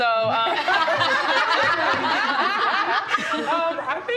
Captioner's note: laughter